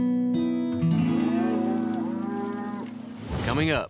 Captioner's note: mooing